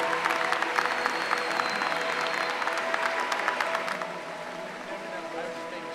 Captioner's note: applause